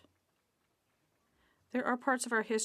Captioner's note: speaking French